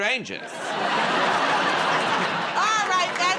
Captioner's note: laughter